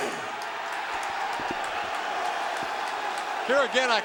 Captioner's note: crowd cheering